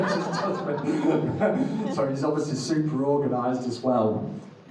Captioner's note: audience laughing